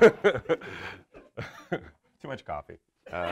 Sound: everyone laughs; laughs

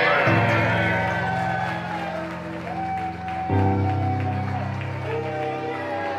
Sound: audience applauding and cheering

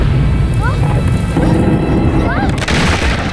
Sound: wood groaning; wood cracking

